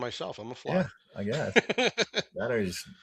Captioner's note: laughs